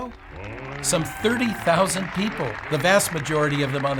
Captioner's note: people cheering